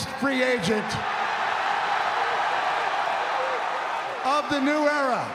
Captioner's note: cheers and applause